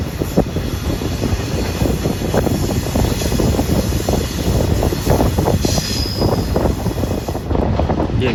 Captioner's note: train sound